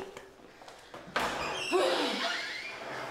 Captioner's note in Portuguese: som de porta abrindo